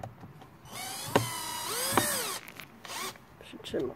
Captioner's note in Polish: Odgłos wkrętarki